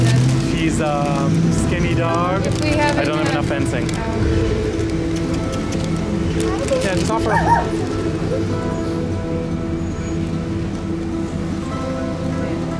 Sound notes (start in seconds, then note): 4.2 kissing sounds; 7.2 barks